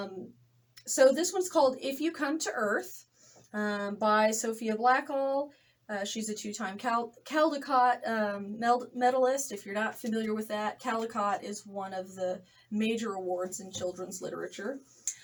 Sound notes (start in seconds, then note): none